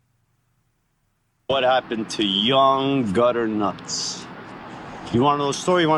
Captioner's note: silence; noisy city